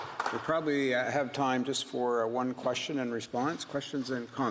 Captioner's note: applause